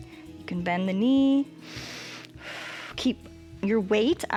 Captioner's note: inhales and exhales